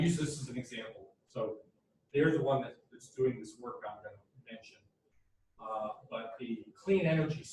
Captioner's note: audio fading